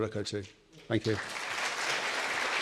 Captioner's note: audience applauds